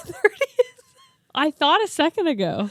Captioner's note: laughs